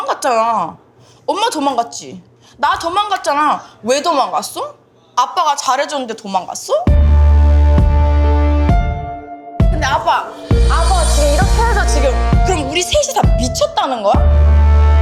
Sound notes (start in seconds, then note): 6.9 intense music; 10.9 speaking Korean